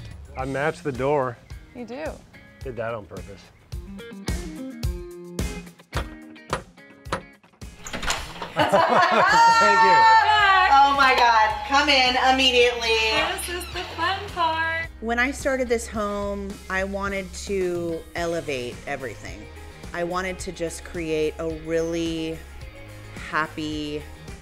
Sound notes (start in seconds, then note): 7.1 knocking; 8.5 laughing